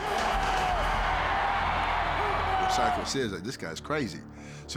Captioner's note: applause